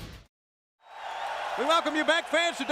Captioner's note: crowd cheering